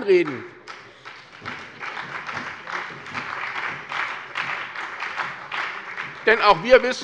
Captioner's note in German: Beifall bei der SPD und der FDP